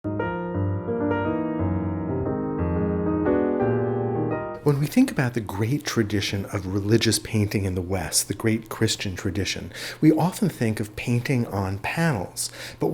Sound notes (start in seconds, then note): 0.0 piano music; 4.8 voiceover